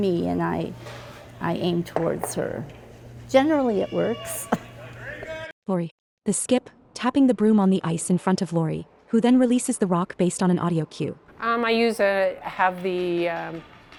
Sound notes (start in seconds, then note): 4.4 chuckles